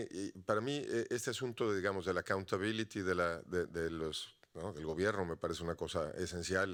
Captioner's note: audience member speaking Spanish continues